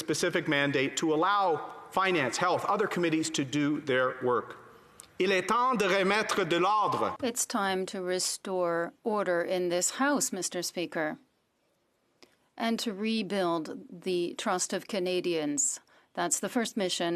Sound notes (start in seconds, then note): 9.4 speaking French